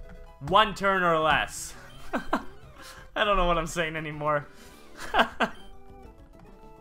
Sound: laugh

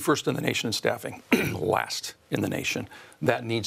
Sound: clears throat

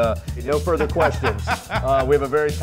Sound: laughs

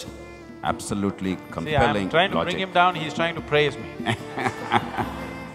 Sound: laughter

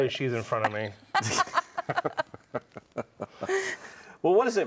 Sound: laugh

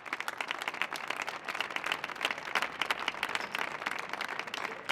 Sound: audience applauding

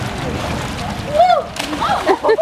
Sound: splash; laughs

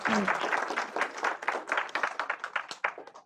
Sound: applause

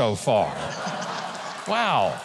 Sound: audience laughing and clapping

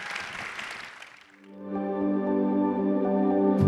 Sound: audience applauds and cheers; gentle music

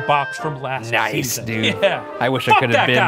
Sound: laughs

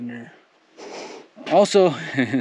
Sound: snickers; laughs

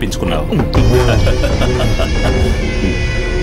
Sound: laughs

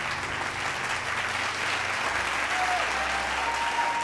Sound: applauding

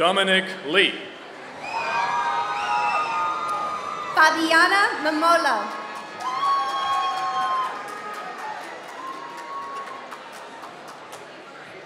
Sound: applause

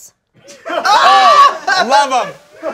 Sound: shouting

